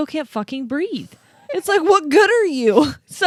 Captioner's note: giggles